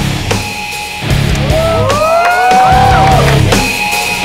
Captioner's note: All hooting